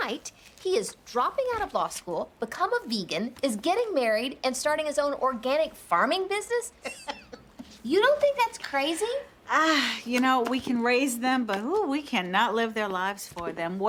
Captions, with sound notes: AND NOW, OVERNIGHT, HE IS DROPPING OUT OF LAW SCHOOL, BECOME A VEGAN, IS GETTING MARRIED, AND STARTING HIS OWN ORGANIC FARMING BUSINESS. [LAUGHS] YOU DON'T THINK THAT'S CRAZY? AH, YOU KNOW, WE CAN RAISE THEM, BUT, HOO, WE CANNOT LIVE THEIR LIVES FOR THEM.